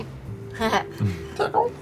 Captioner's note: laughs